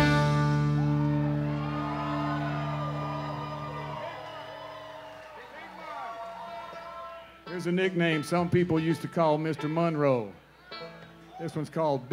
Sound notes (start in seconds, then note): 2.7 audience applauds; 2.7 audience cheers